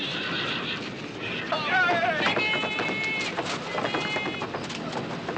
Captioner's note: indistinct Yelling